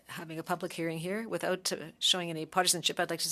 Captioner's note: speaking French